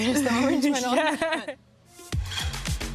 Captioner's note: laughter; vibrant music